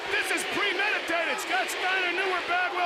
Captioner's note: crowd chatter